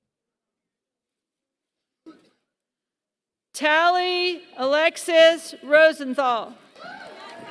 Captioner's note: applause